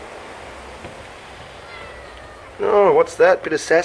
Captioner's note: miaows